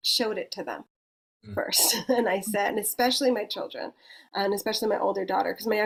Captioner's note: chuckles